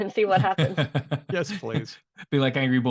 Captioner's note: laughter